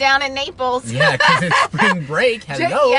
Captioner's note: laughing